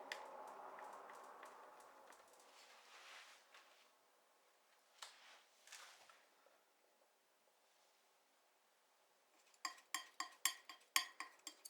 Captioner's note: clicking